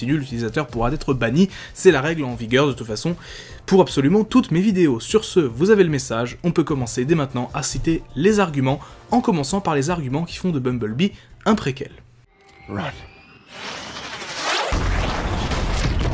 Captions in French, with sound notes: l'utilisateur pourra être banni, c'est la règle en vigueur de toute façon pour absolument toutes mes vidéos. Sur ce, vous avez le message. On peut commencer dès maintenant à citer les arguments, en commençant par les arguments qui font de "Bumblebee" un préquel. "Courez !" [boum]